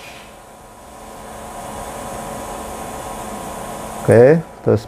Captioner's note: printer machine noise